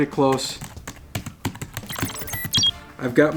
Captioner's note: clicking and beeping continues